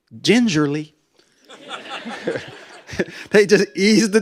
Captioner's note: laughter